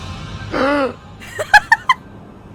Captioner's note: patron gasps; Emma giggles